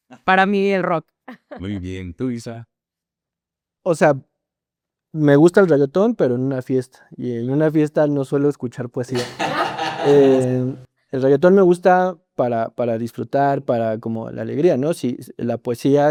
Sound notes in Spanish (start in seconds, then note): 9.1 risas